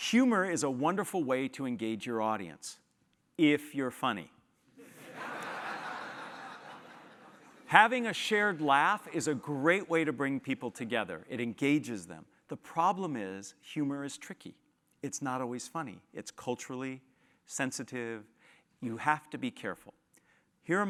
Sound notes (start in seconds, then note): 5.0 laugh